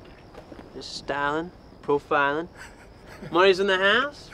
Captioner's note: people laughing